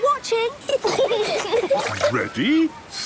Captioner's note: giggling